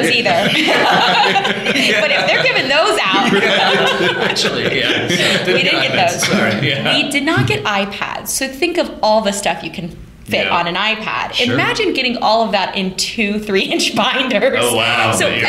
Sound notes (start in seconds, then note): 0.0 laughter